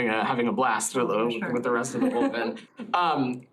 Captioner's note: laughter